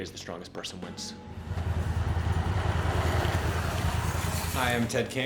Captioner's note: gravel road noise